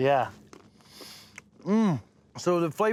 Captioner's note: crunching